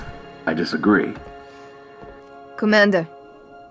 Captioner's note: radio